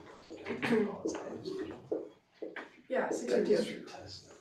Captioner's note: background chatter